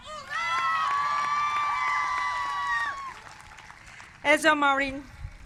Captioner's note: cheers and applause